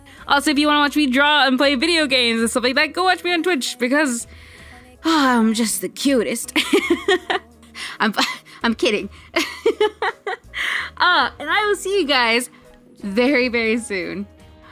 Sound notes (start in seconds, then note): 5.0 sighs; 6.6 laughing; 9.3 laughing